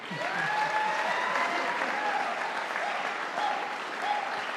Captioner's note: audience applauding